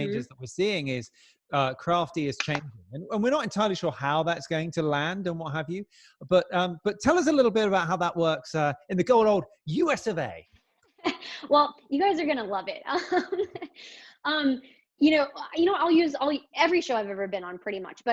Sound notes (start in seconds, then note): 11.3 chuckles; 13.3 laughing